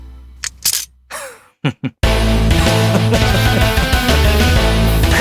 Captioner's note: laughing man